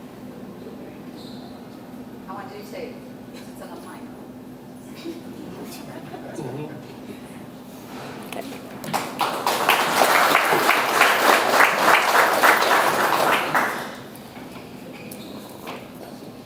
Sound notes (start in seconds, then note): 8.6 audience applauds